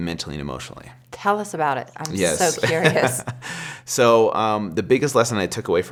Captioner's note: laughs